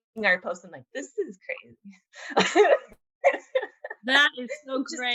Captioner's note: giggling